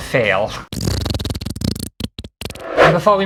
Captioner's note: fart Noises